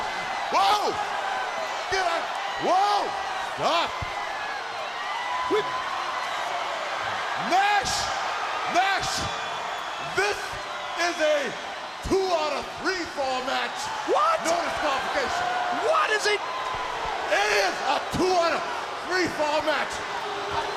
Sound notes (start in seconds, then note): 4.5 crowd cheering; 6.2 crowd chatter; 17.8 crowd cheering; 19.9 crowd chatter